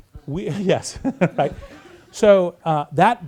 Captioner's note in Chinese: 大笑